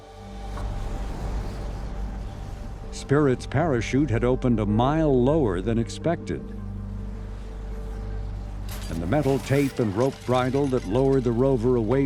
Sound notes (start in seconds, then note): 0.7 wind whoshing